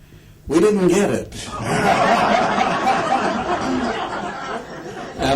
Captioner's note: laughter